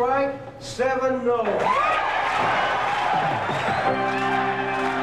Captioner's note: applause